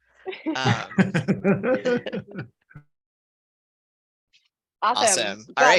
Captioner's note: laughter